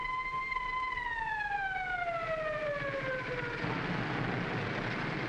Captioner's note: siren wailing